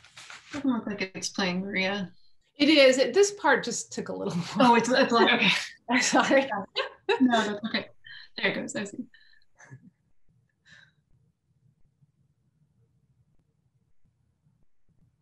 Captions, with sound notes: >> More of what to explain here. >> This part just tickle a little [LAUGH] >> It's a lot, okay, [LAUGH] I'm sorry though, >> [LAUGH] >> Know that, okay. >> There it goes, there is a,